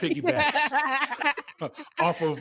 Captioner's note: laughing